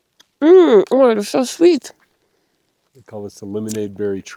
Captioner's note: munches